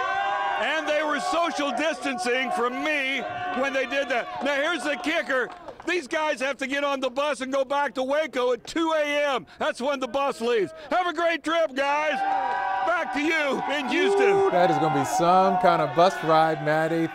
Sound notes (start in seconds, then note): 0.0 cheering